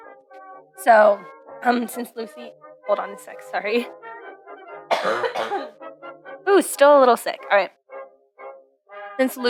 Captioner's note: coughs